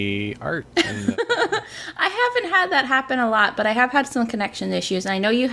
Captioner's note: laughs